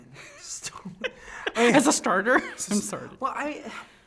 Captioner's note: laughing